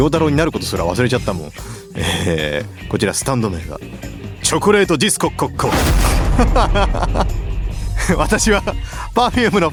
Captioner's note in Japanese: 笑い